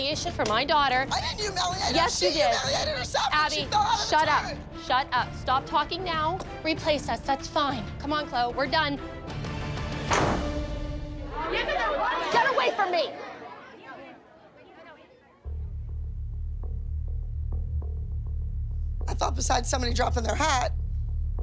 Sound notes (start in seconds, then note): 11.2 chatter; 15.5 ominous music